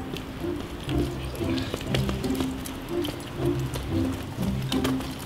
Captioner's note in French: none